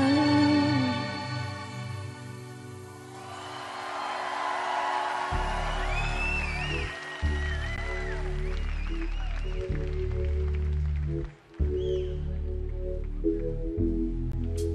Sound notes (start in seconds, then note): 3.1 audience cheering; 3.1 audience applauding